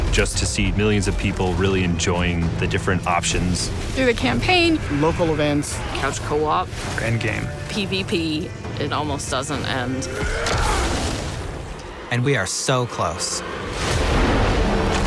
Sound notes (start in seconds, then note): 11.2 loud yell